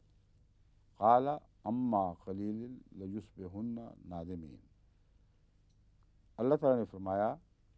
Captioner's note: Arabic